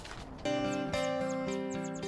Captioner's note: soft guitar music; paper rustling